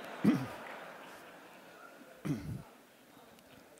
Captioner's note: audience laughs